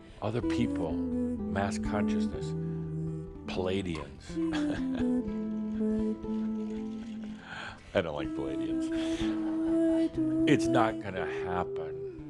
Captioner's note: Adamus chuckles